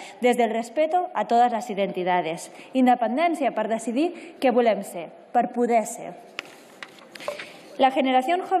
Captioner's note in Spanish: Continúa su intervención en catalán